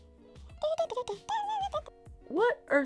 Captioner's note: murmuring